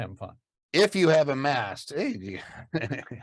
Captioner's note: laughs